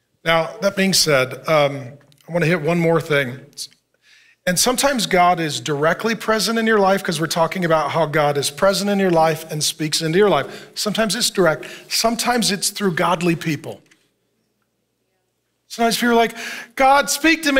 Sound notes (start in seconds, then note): none